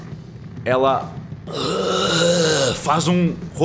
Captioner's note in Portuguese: Grunhido